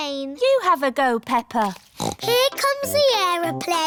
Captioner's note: snorts